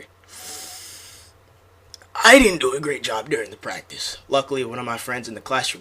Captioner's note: inhales